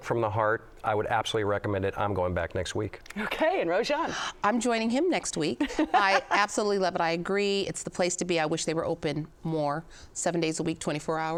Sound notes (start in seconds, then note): 5.6 laughs